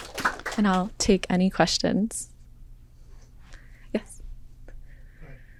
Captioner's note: applause